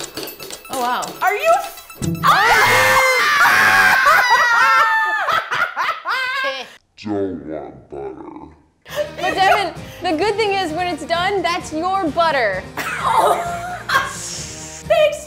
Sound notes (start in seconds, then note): 2.2 screams; 3.5 laughs; 12.8 laughs